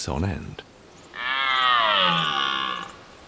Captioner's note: deer roars